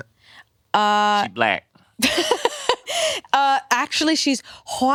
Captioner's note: laughs